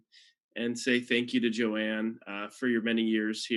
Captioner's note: none